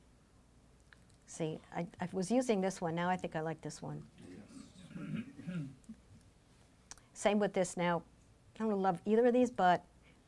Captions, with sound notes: See, I was using this one, now I think I like this one. (crowd responds positively) Same with this. Now, I don't love either of these, but